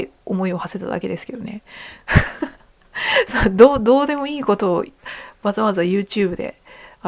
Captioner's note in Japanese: 笑い